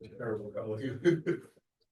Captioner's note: laughter